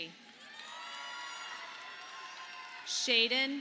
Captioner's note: audience applauding